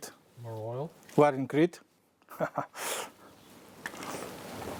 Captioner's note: laughs